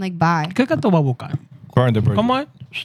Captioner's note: non-english Speech